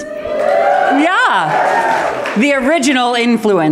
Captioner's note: applause